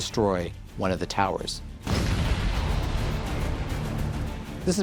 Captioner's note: explosion